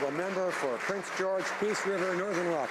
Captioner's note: some Applause